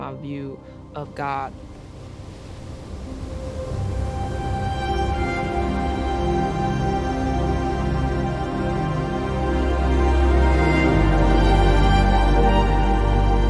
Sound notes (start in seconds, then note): 2.6 waves crashing; 4.2 swelling instrumental music